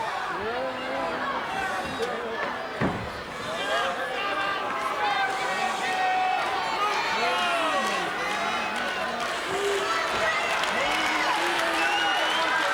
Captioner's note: applause